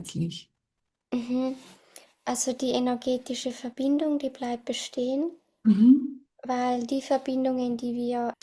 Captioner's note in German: räuspern